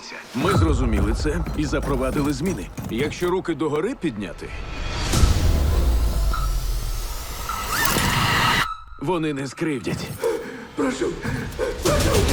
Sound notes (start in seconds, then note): 5.1 music intensifies; 7.4 robotic dog yelps; 10.0 panting